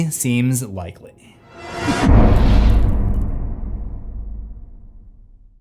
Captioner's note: impact